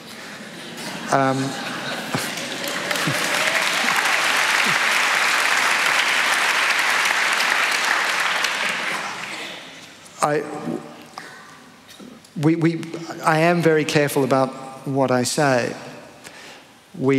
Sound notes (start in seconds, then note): 0.4 laughter; 1.7 applause